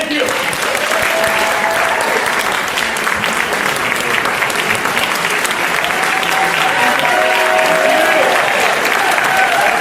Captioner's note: applause